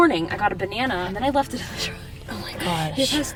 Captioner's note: laughs